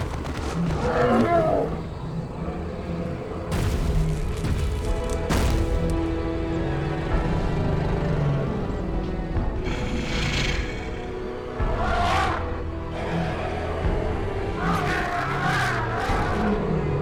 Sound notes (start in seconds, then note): 3.4 thunderous footsteps; 6.2 growling; 14.1 triceratops trumpeting